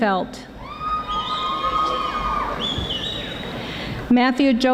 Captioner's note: audience applauding